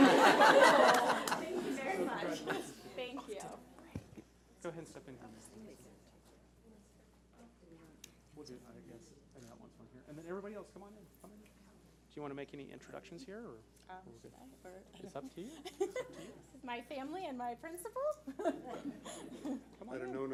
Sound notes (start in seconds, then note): 0.0 laughing; 7.0 people chattering; 18.3 laughing